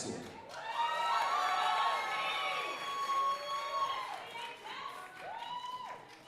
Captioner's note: audience cheering and applauding